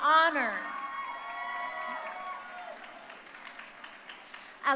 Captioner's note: crowd cheering